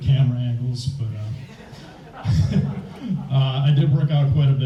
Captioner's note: all laugh